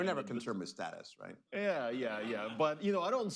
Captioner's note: laughter